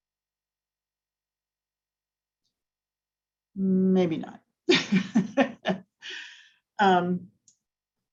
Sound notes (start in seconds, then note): 4.8 laughing